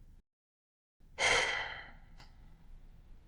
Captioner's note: sigh